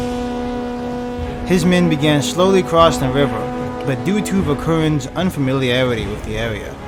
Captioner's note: horn noise